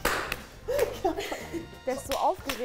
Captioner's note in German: Lachen